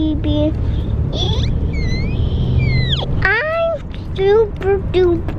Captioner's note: laughs